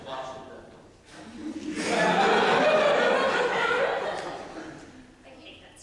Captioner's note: audience laughter